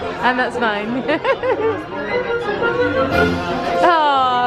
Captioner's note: laughs